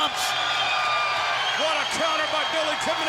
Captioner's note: crowd cheering